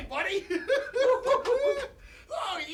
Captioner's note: both laughing